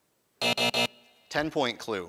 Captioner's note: buzzing